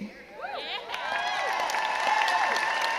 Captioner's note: crowd cheers